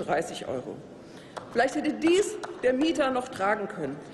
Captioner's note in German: Applaus